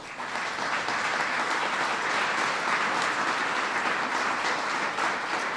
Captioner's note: applause